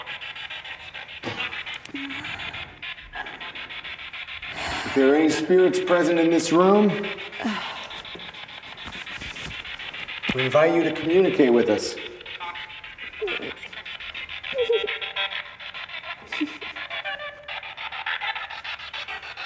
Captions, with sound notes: If there are any spirits present in this room, we invite you to communicate with us. (Spirit Box crackling) (Isabel sobbing)